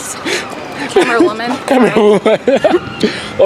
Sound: laughing

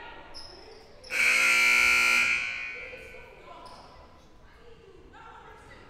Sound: loud buzzer blaring

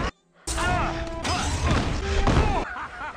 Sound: multiple groans

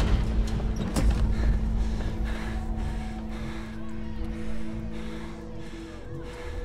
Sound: panting; yelling continues

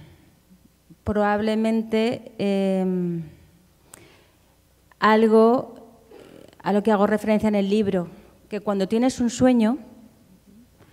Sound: speaking Spanish

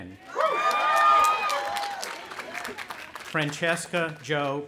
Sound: audience applauding and cheering

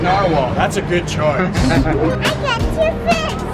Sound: laughing

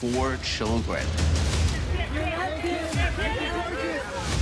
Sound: reporters clamor

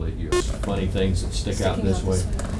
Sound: beeping

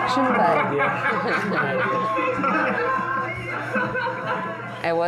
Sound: laughing

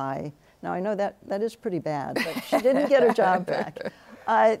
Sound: laughs

